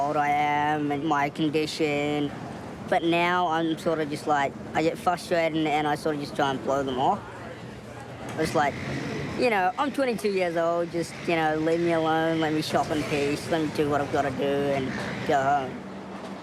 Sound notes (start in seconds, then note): none